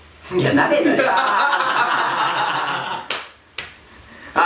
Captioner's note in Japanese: 爆笑